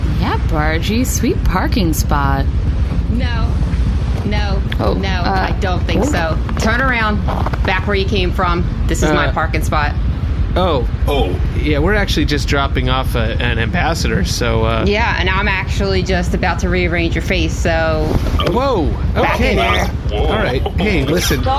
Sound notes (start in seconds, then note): 14.5 matter-of-factly